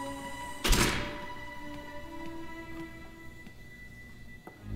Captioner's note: door closes